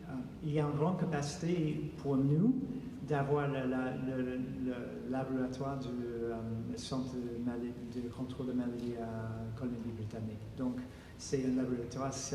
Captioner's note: speaking French